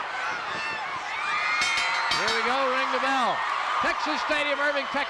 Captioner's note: bell rings